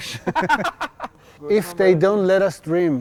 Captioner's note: laughter